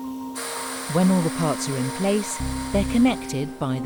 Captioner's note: drill buzzes